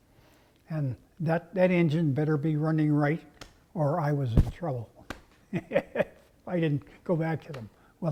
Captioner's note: laugh